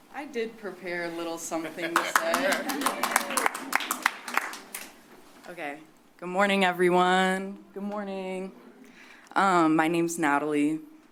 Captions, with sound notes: - I did prepare a little something to say. [applause] Okay. Good morning everyone. Good morning. - Good morning. - Um, my name's Natalie.